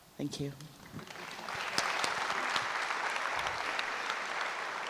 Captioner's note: audience applauds